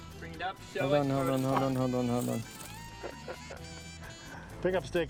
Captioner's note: chuckles